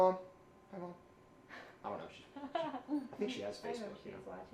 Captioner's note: giggles